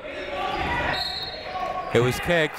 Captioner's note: whistle tweeting